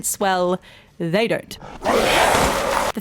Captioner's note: jumpscare